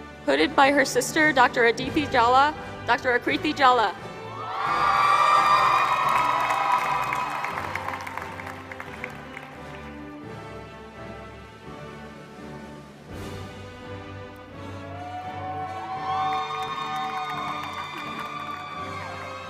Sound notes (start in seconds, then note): 4.5 applause